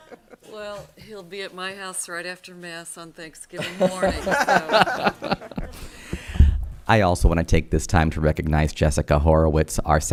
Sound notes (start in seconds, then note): 0.0 audience laughter; 3.6 audience laughter